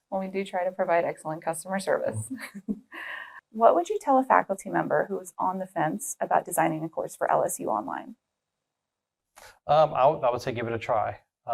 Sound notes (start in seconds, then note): 2.1 laugh